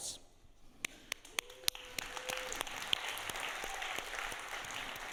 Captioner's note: all applauding